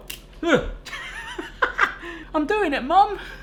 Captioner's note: laughing